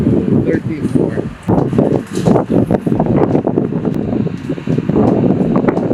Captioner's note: wind blowing